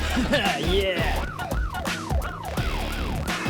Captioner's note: fantasy police car sirens